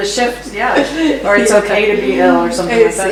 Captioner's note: laughs